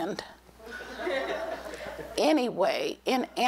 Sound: laughter

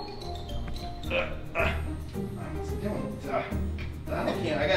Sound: gasping

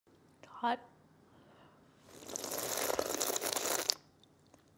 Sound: slurps

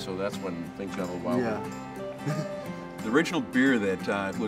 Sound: laughs

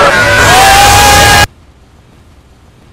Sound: very loud scream

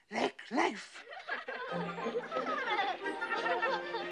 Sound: kids laughing

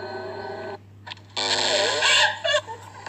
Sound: crying

